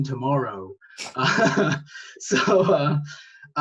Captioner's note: laughs